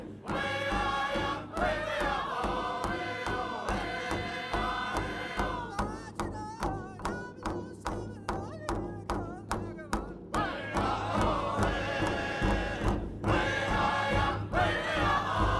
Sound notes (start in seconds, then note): none